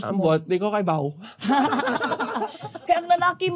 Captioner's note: chuckling